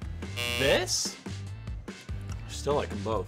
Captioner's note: buzzing